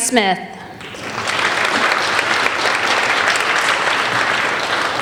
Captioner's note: applauding